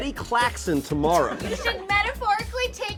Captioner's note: laughs